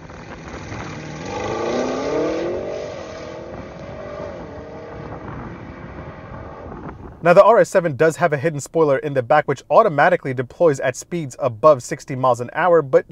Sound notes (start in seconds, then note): 0.0 car engine revving; 0.1 wind whooshing